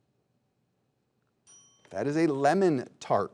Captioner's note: bell tings